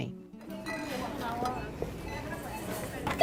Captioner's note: machine beeping